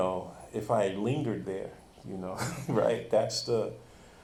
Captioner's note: chuckles